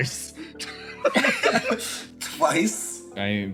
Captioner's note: laughs